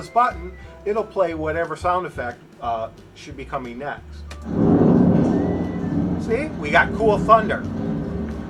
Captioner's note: thunder